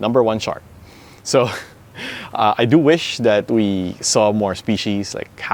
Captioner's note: laughs